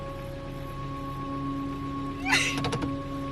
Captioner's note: sobbing